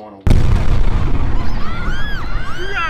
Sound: explosion in the distance, people scream

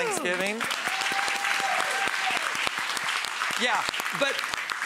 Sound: audience cheering and applauding

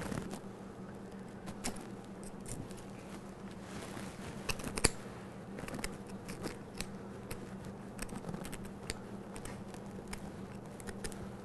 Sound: squishing and scraping sounds

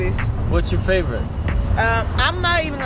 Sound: male Voice

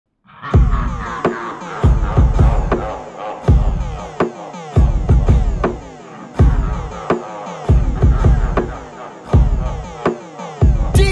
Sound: laughter

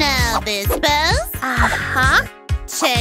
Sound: groaning; grunting

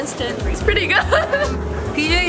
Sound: laughs

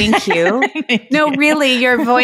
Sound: laughing

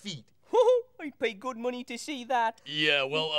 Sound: chuckles

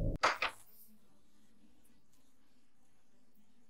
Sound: door opens

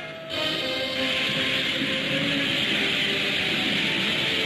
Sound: fire hissing

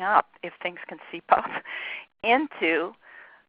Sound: laughs

